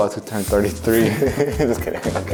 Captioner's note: laughs